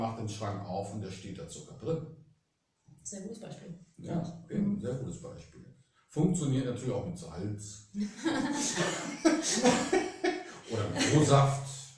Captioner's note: laughter